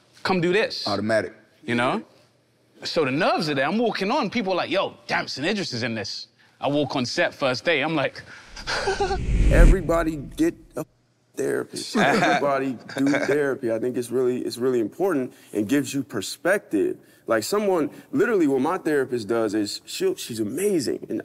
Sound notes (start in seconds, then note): 8.5 wind whooshes; 8.5 whimpers